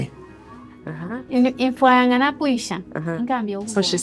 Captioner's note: speaker speaking in foreign language